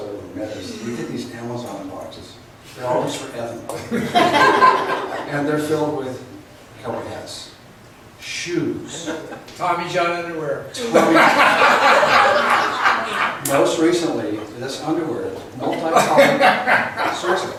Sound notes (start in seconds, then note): 3.8 laughs; 9.8 voiceover; 10.8 laughs; 16.8 laughs